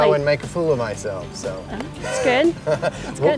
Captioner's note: laughs